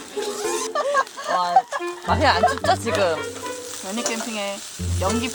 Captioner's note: laugh